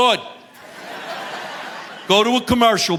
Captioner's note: audience laughing